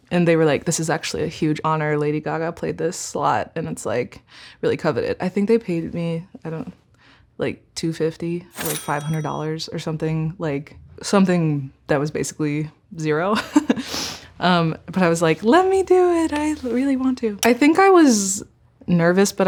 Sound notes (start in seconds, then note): 13.9 chuckling